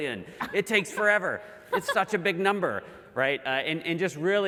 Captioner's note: laugh